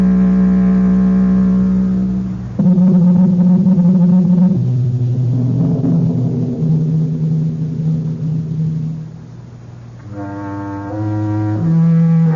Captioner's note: horns